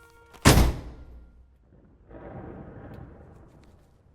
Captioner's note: book slams